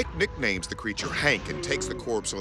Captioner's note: moaning